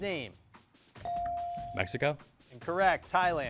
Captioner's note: bell dings